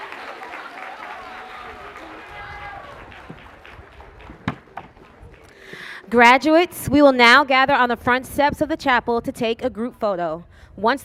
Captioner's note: cheers and applause